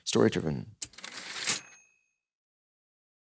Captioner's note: typewriter ding